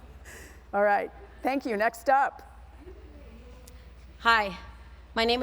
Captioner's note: laughter